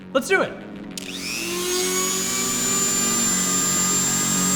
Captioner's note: drill whirring